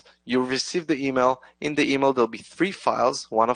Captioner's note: none